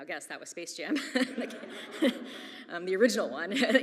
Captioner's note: audience laughs; laughs